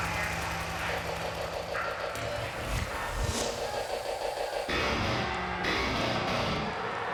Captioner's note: helicopter blades whirring; fans cheering; energetic rock music